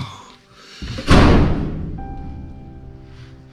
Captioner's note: doors slammed with a vengeance